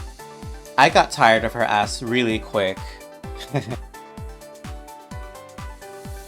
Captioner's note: chuckles